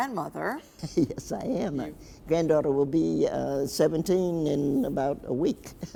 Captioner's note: chuckles; chuckles